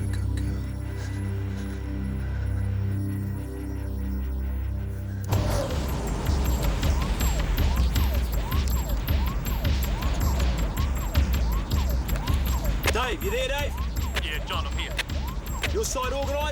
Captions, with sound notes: Good girl. (siren wailing) (energetic dramatic music) - Dave, you there, Dave? - Yeah John, I'm here. - Is your side organized?